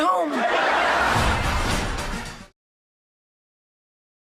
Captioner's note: audience laughs